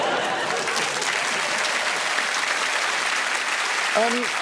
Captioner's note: laughter; applause